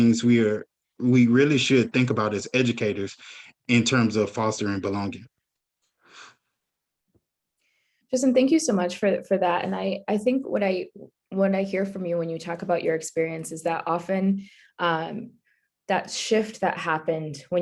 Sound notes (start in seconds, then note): none